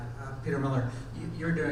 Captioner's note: voiceover